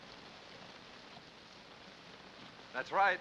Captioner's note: rain patters